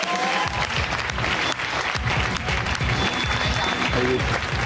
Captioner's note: cheers and applause